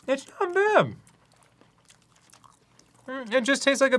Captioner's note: wet chewing